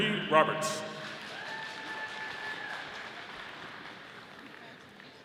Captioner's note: audience applauding